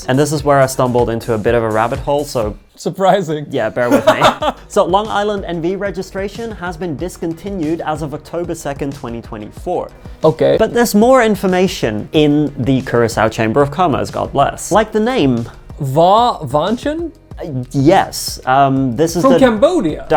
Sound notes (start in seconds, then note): 3.8 laughing